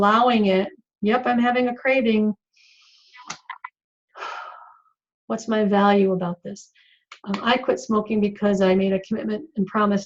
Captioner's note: sigh